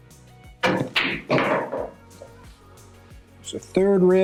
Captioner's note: lively music; balls clanging